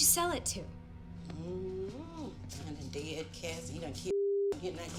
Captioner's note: moans